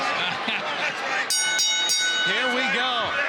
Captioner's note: bell rings